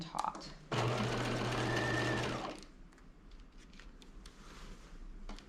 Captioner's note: sewing machine whirring